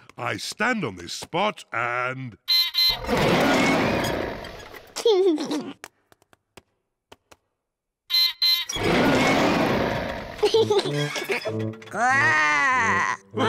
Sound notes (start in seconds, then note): 2.8 beeps and roars; 5.0 laughs; 8.0 beeps and roars; 10.2 laughs; 11.8 growls